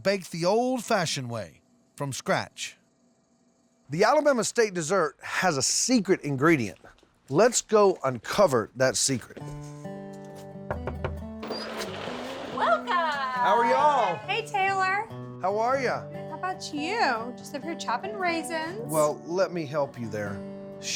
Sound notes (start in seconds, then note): 10.6 knocking on door; 11.4 door opens